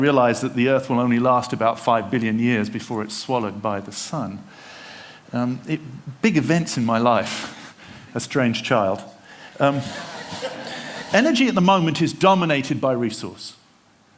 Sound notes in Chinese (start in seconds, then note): 9.6 笑聲